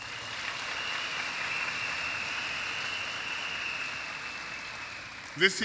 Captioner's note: applause and cheers